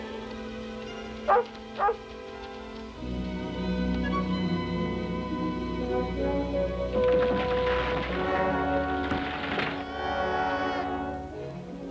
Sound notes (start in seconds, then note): 1.8 Shep barking; 6.9 clattering